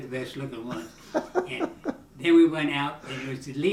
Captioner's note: laughing